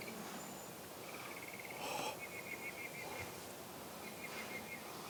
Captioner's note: birds chirping